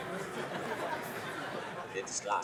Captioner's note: laughter